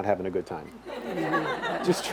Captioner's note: audience laughs